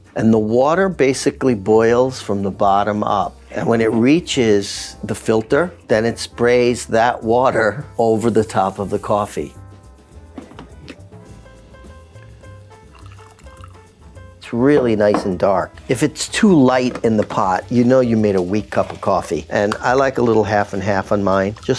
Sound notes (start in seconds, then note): 10.2 gentle bright music; 13.0 coffee trickling